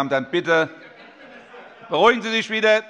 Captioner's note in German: Heiterkeit